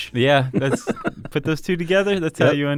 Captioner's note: laughter